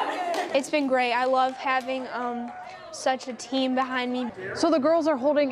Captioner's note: cheering